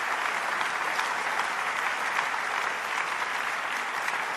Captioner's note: applause